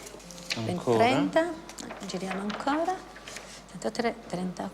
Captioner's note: Italian spoken audio